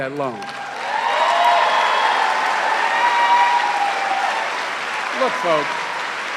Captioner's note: cheering and applause